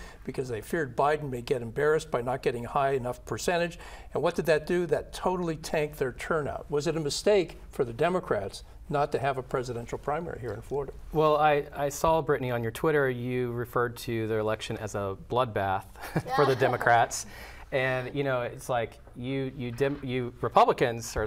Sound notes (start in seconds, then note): 16.0 laughs